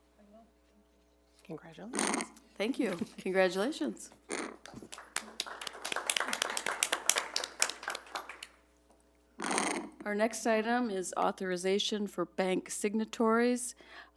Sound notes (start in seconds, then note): 4.6 crowd applauding